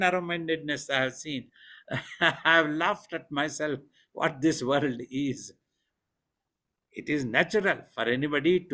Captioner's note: laughs